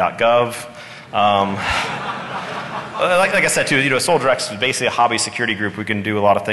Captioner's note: laughter